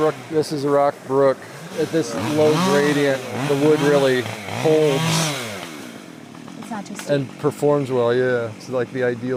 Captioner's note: chainsaw sounds